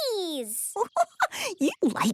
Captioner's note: giggling